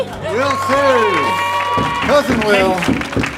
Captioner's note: audience cheers and applauds